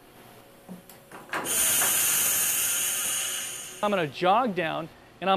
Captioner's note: machine working